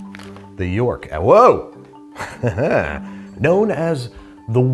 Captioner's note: chuckles